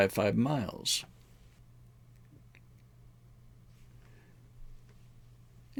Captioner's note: silence